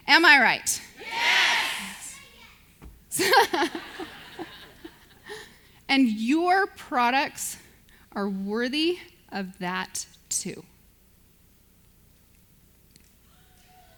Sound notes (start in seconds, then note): 3.2 audience laughs